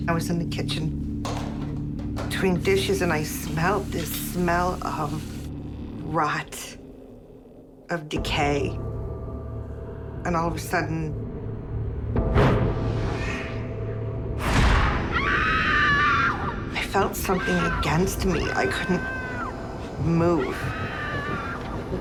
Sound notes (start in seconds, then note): 14.8 screaming